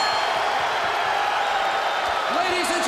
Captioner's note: bell ringing